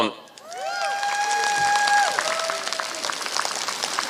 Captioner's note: applause